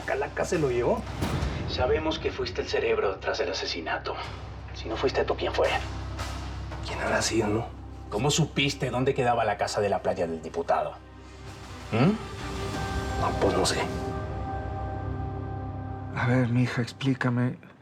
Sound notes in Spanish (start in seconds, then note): none